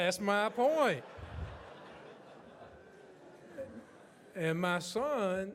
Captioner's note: audience laughs